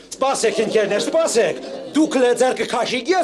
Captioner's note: hubbub